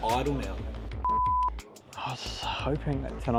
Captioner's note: beep